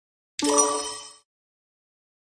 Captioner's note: sonido de timbre correcto